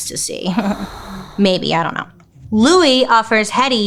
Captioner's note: chuckles